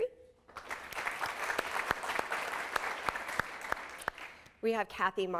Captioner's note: applause